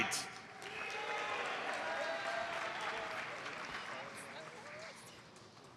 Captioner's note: audience applauds